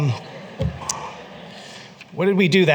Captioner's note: laughter